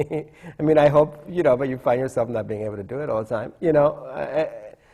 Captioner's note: laughter